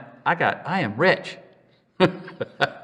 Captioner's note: laughs